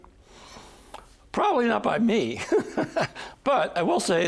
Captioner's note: chuckling